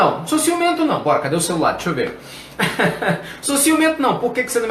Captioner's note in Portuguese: risos